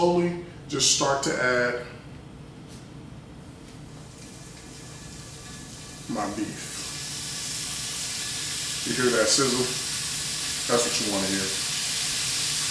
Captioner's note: sizzle